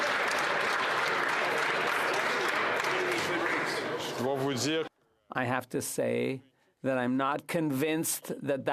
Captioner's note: some Applause